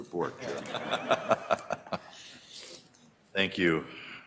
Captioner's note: audience laughter